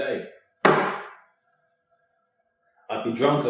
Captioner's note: slams glass down on table